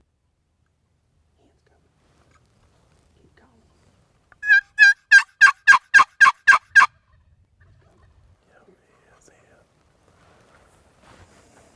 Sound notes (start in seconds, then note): 4.4 box call yelping; 7.3 turkey gobbling